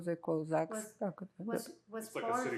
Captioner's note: russian